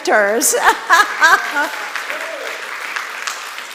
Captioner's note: applause